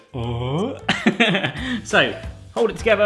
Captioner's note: laughs